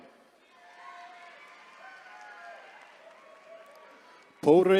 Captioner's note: attendees cheering